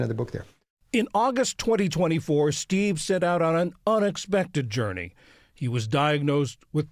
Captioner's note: voice-over